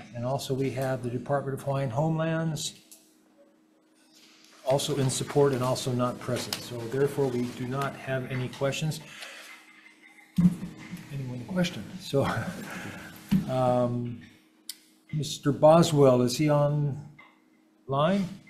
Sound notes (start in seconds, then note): 12.1 chuckles